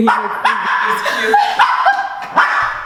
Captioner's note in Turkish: gülüşmeler